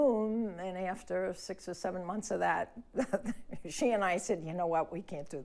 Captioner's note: laughs